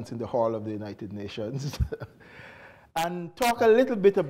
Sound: chuckles

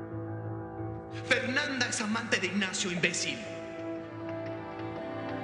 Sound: Voz de Leonardo

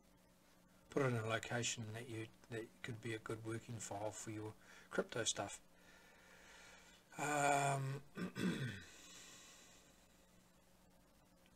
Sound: clears Throat

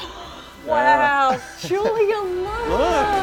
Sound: gasping

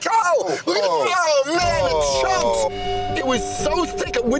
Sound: groaning

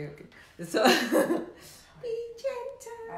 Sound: chuckles

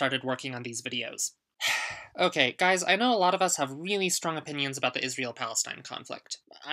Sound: sigh

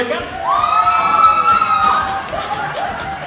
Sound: stage volunteers screaming; funky dance music

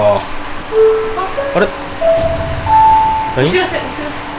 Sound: city chimes

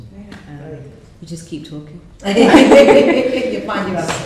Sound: laughter

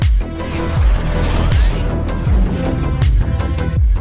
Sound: energy pulsing

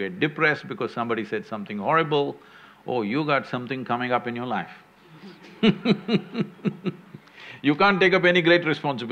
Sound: laughs

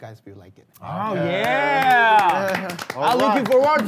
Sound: sound of clapping

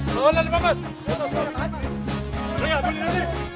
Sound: chattering

